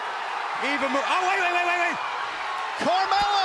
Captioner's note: cheers and applause